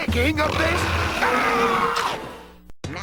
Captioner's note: roaring